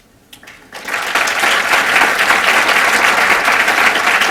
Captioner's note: applause